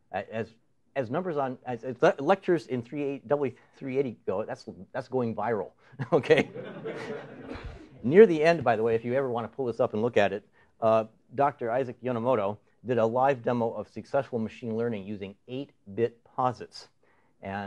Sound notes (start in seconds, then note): 6.0 laughter; 6.2 laughing